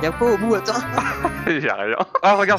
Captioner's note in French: rires